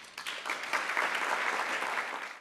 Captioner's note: applause